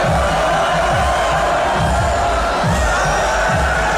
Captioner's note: crowd yelling